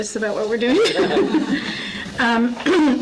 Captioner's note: laughs